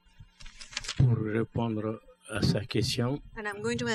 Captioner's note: speaking french